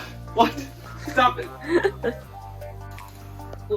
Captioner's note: laughter